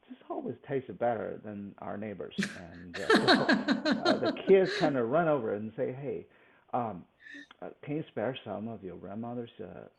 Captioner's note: laughs